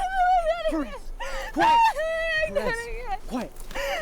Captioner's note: crying